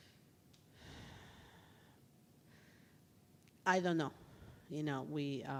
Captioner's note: exhales heavily